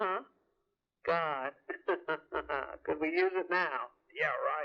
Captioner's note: laughs